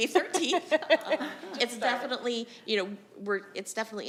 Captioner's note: laughing